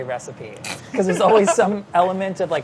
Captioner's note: laughs